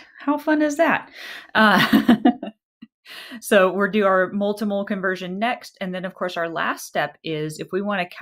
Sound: laughter

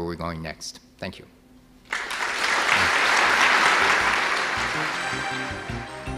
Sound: audience clapping; intense electronic music

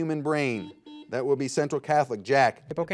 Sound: buzzer buzzes

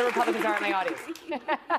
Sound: applause

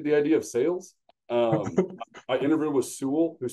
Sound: laughs

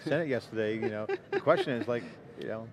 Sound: laughing

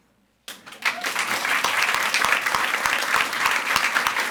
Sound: audience applauds

